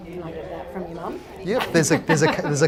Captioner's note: laughs